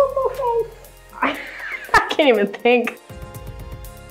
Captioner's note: laughs